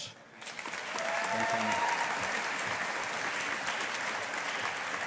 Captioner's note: audience applauding